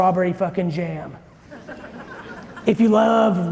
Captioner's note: audience chuckling